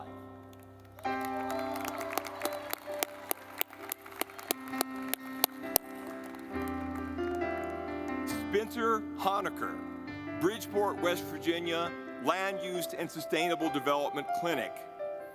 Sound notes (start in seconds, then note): 0.4 audience clapping; 0.8 gentle music